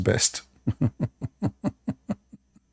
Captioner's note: Ketawa